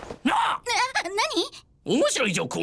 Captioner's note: shrieks